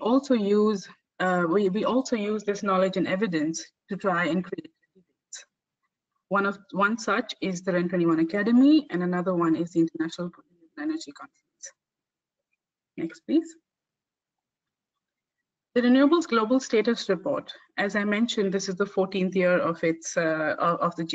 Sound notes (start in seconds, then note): 3.9 audio static; 10.8 audio static